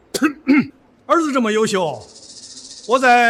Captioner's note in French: tousse